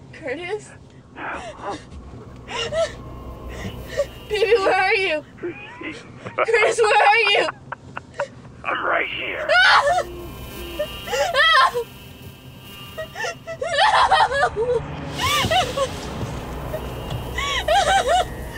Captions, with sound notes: - Curtis? - Hum. - Baby, where are you? Curtis, where are you? (man laughing) - I'm right here. (Amanda screaming) (phone beeping) - No!